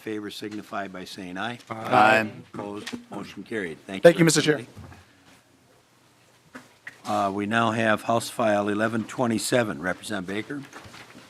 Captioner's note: chorus of ayes